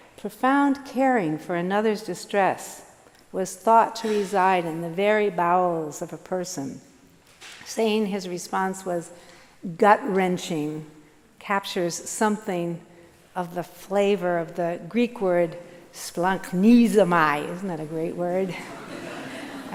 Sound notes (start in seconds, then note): 14.3 speaking foreign language; 18.6 audience laughing